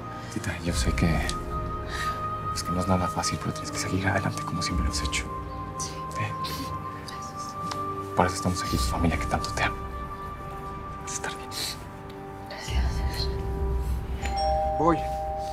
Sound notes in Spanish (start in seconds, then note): 14.1 timbre suena